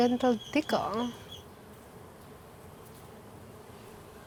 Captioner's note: buzzing; speaking Spanish